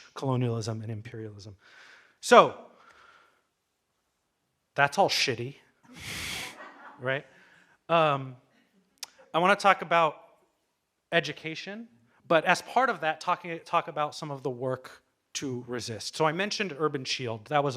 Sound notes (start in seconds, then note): 6.3 audience laughing